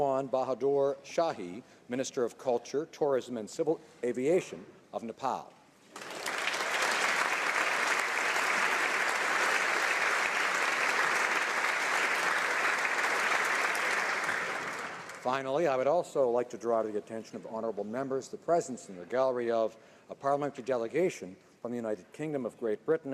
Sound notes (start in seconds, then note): 13.7 applause